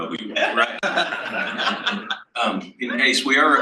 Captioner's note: panel laughs